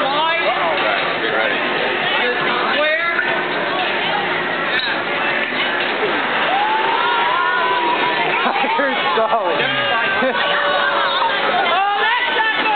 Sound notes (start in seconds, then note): 6.4 distant scream; 8.2 chuckle